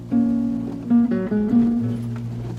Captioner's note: wipers